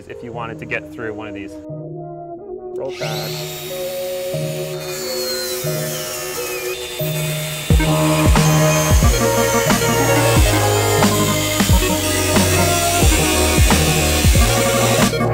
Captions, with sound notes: if you wanted to get through one of these. Oh, god. (angle grinding) (electronic music)